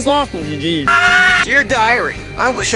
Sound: screams in Italian

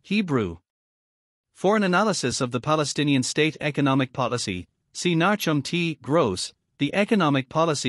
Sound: Hebrew

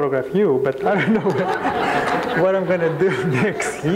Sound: crowd laughing

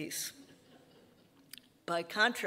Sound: audience laughing

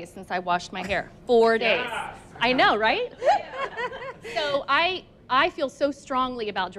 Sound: laughs

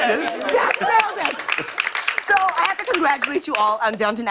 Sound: applause

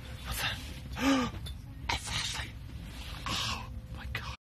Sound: gasp

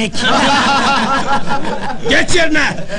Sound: laughing

